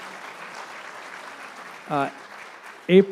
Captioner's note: applause